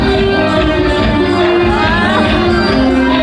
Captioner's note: laughing